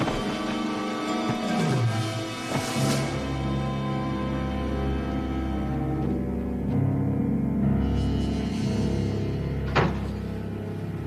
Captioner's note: screaming